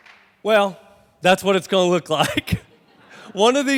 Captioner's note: laughs